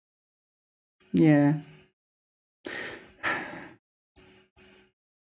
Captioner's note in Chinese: 叹气